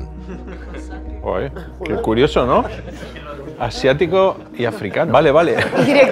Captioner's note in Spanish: Risas